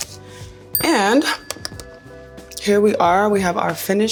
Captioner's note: chime chiming